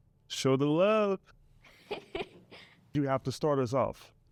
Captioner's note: student laughs